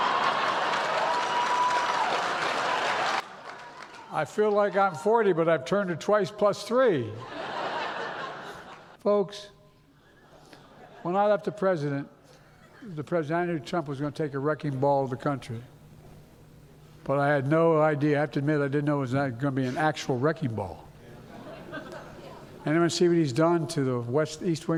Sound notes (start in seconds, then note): 3.8 laughter; 5.9 applause; 12.5 laughter